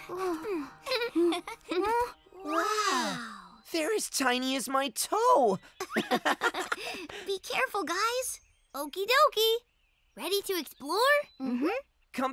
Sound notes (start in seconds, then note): 0.8 all chuckling; 5.8 both chuckling